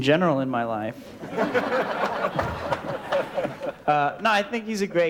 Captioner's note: audience & Crew Laugh